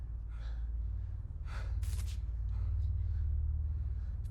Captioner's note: exasperated breathing